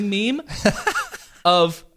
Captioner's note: laughing